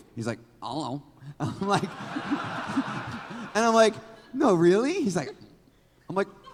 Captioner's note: laughs